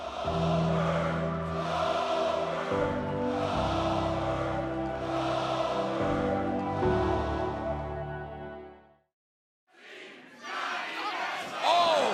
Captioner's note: fans chanting goldberg